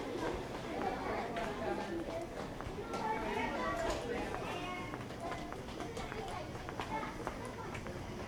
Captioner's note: children chattering